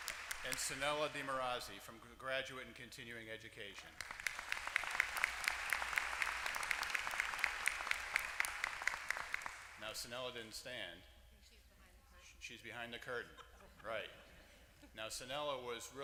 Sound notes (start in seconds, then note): 0.0 applause; 3.9 applause